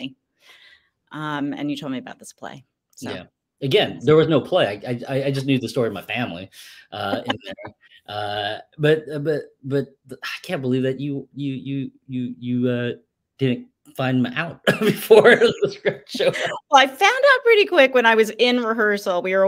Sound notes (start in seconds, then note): 7.0 laughs; 14.6 laughs